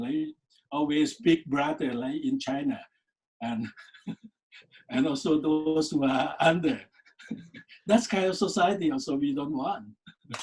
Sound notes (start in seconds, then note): 3.5 laughs; 7.0 laughs